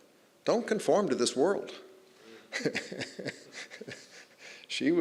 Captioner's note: chuckling